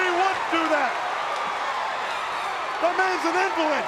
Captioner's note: crowd cheering